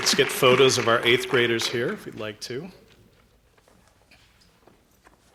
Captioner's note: applause